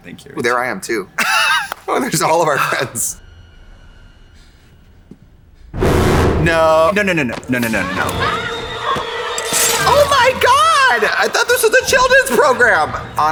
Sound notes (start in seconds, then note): 5.8 ominous music; 7.7 Heather screaming